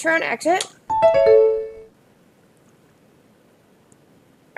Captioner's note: computer chimes